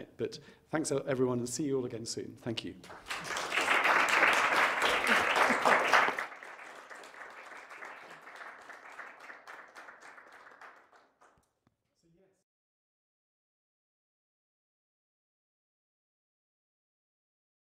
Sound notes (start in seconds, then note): 2.8 audience applauding